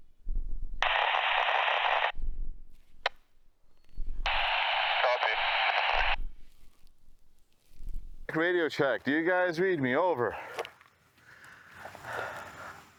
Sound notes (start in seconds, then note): 0.9 radio chatter